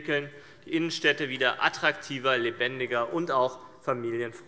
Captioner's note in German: none